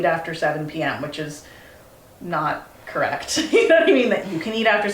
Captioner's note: laughs